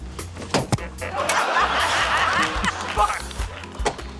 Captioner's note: laughter